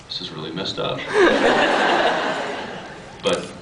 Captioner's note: laughs